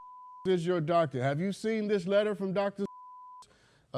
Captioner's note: beep; beep